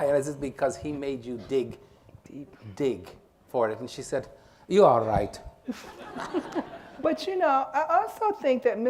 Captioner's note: laughter